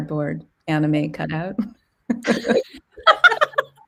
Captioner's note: laughing